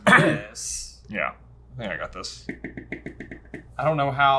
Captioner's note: tapping pen